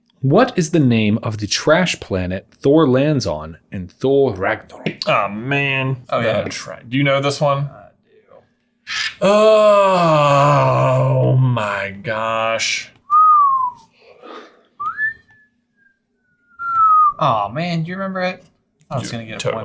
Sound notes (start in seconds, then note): 13.0 whistling